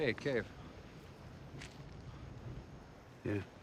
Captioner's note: footstep